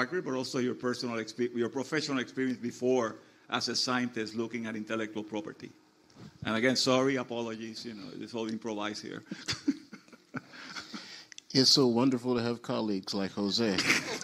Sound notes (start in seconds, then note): 9.2 laughs